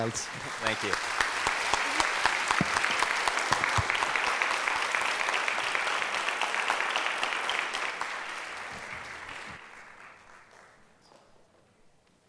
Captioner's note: audience applauds